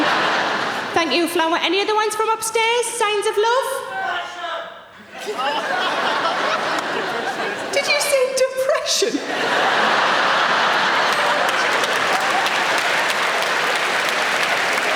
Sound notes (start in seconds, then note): 0.0 audience laughing; 4.1 audience member yells; 9.0 audience laughing; 11.3 audience clapping